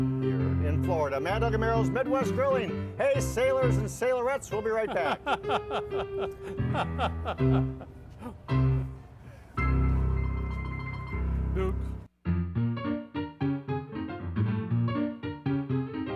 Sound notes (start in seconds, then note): 3.9 piano music; 4.8 laughing; 12.2 upbeat piano music